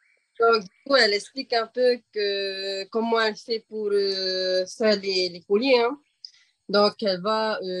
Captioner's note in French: En français